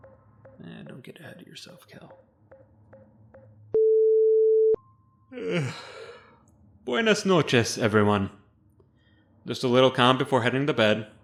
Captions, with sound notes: Nah don't get ahead of yourself Kel. [Yawn] Buenas noches everyone. Just a little comm before heading to bed.